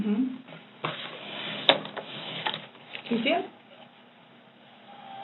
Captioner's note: computer slides on table